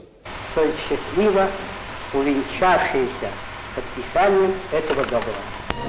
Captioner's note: Russian